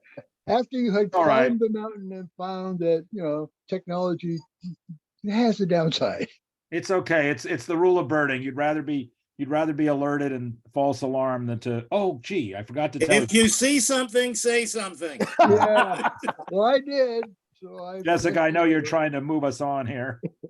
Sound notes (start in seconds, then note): 15.2 laughs